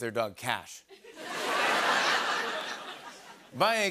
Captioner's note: laughter